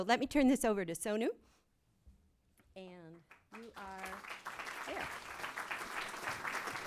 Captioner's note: applause